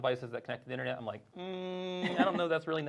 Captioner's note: hums skeptically